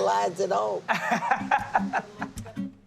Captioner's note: laughs